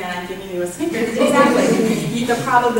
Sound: audience laughter

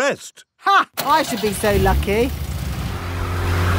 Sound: car engine starts

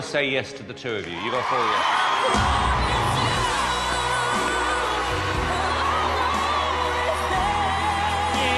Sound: crowd cheering

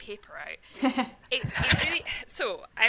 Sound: laughs

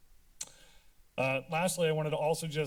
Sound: tongue clicking

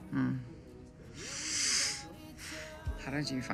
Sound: inhales deeply

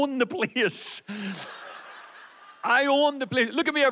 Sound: audience laughs

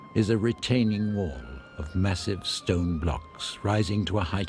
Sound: man speaks in foreign language

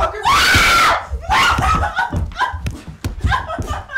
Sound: screaming

